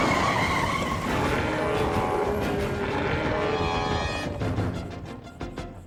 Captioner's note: tires squealing; growling